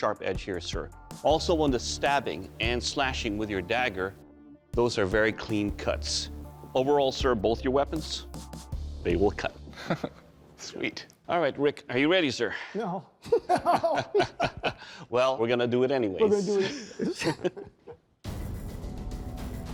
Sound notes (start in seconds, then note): 9.7 laughs; 13.2 laughter; 16.3 laughter